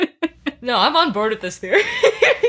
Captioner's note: laughs